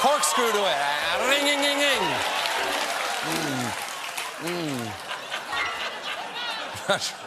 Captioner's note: laughter